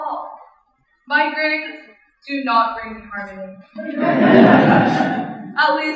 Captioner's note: laughter